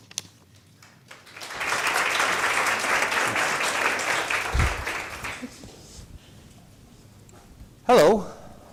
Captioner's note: applause